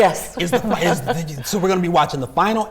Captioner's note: chuckles